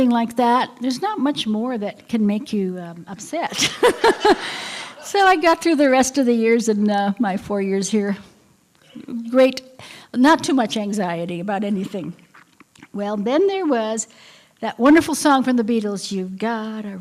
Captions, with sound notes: LIKE THAT THERE'S NOT MUCH MORE THAT CAN MAKE YOU UPSET [LAUGHTER]. SO I GOT THROUGH THE REST OF THE YEARS, MY FOUR YEARS HERE GREAT. NOT TOO MUCH ANXIETY ABOUT ANYTHING, BUT THEN THERE WAS THAT WONDERFUL SONG FROM THE BEATLES GOT